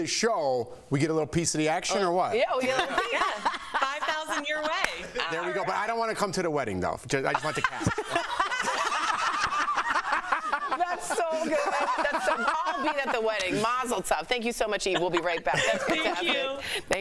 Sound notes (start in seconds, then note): 7.3 laughter